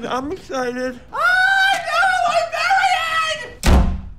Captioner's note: squealing; door slams shut